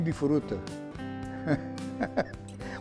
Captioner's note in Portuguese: risos